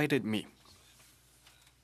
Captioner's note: speaking French